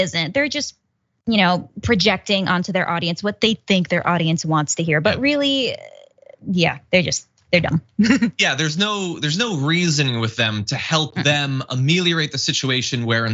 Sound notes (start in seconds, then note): 8.0 laugh